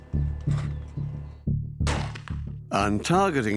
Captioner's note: gunshot